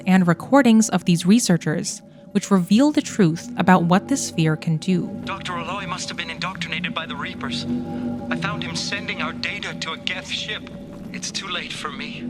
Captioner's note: recordings playing